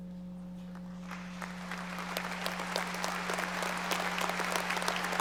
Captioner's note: audience applauding